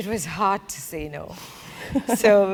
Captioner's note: laugh